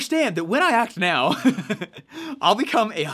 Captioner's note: laughs